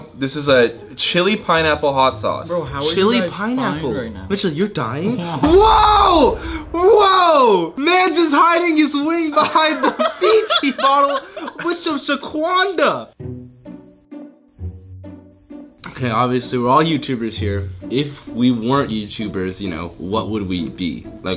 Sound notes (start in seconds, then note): 9.6 laughs; 13.2 whimsical music